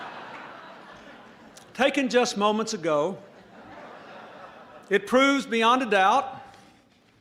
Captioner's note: laughter